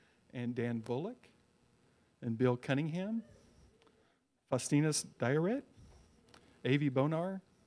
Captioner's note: none